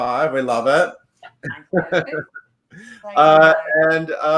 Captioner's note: laughs